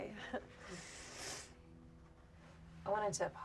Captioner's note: laughs; Claire sniffles